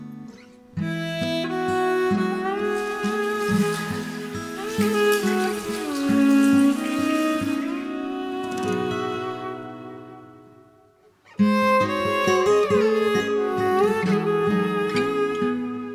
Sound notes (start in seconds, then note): 2.3 water splashing